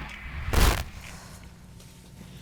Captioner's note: static